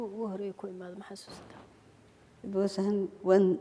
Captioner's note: speaking foreign language